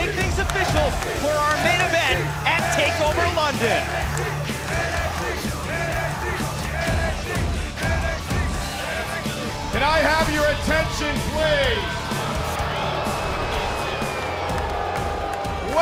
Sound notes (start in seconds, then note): 4.8 fans chanting